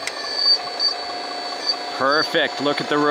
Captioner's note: bulldozer motor rumbling